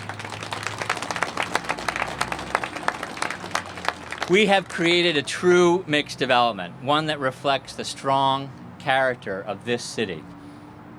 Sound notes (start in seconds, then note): 0.0 applause